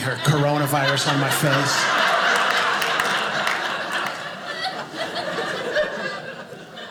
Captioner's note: audience laughing